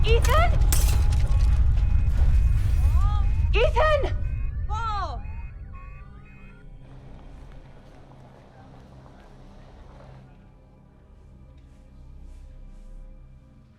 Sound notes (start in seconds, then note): 0.1 glass breaking